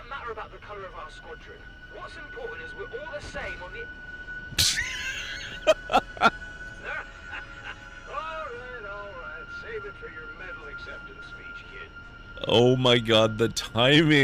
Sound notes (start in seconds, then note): 4.6 laughter